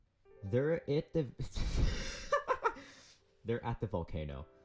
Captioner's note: bursts out laughing